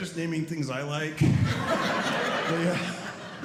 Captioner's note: audience laughing